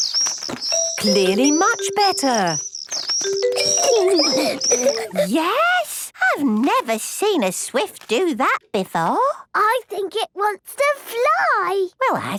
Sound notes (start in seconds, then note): 0.0 tweeting; 3.5 giggling